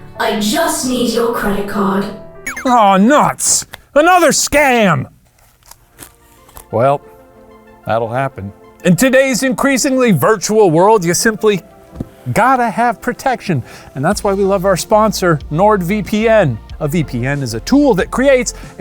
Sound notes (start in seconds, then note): 2.4 tones beeping; 6.6 light music